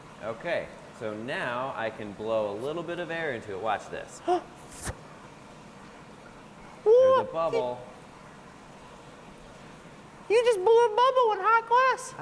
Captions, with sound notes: Okay, so now I can blow a little bit of air into it, watch this. [air puff] There's a bubble. You just blew a bubble in hot glass.